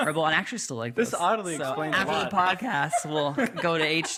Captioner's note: all laughing